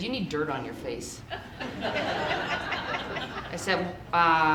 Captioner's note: audience laughing